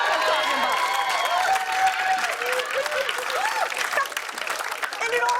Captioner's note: cheers and applause